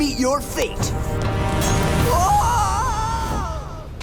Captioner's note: screaming